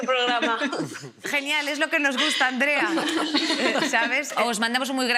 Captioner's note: others laugh